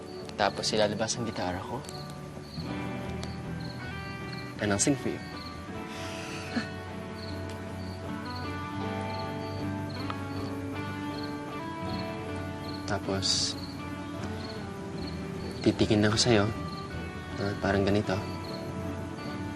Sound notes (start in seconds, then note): 5.9 chortles; 7.0 mellow music continues